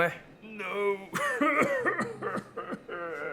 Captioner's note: cries